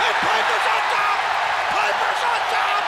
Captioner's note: audience cheers